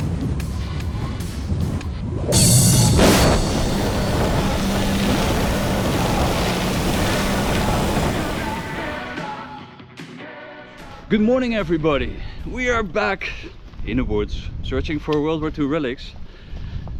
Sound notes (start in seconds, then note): 2.4 gravel crunching; 8.3 lively music